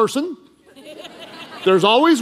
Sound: congregation laughing

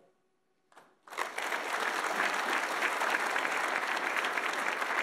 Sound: audience applauds

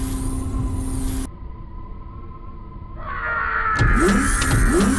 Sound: screams as they fall

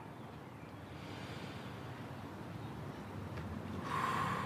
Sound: L breathes deeply

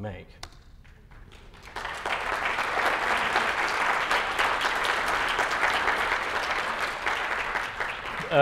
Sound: applause

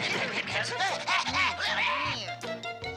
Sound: panther grunting

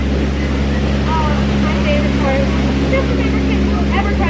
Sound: boat roaring

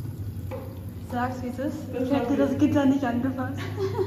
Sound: laughs

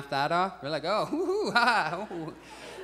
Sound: laughing calmly; audience chuckles

